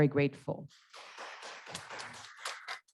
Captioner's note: applause